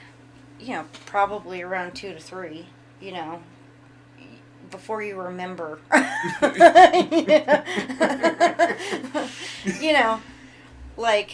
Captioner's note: laughs